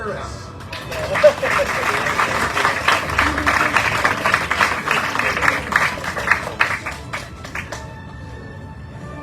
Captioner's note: audience cheering, applauding